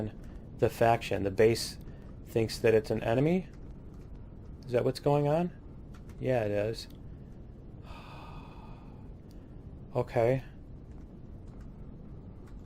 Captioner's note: sighs